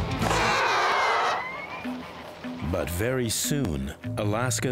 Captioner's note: shot whistling